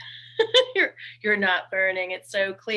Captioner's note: laughs